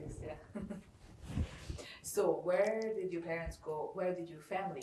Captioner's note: laughing